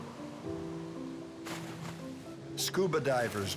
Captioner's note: splash